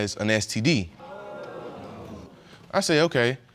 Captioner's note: audience exclaims